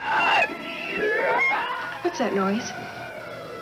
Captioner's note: creature shrieking